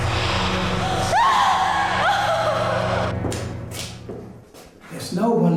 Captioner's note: woman screams